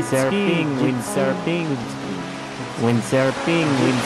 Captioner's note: echo